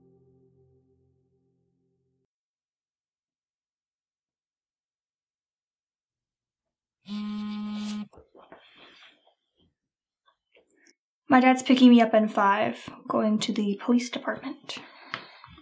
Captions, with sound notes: [ Phone vibrates ] My dad's picking me up in five. Going to the police department.